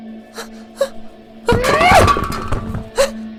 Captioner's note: BloodThing struggling, objects falling